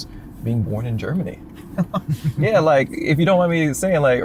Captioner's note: laughter